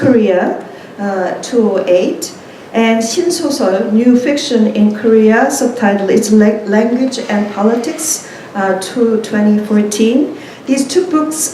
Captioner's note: korean